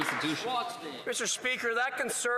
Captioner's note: some Applause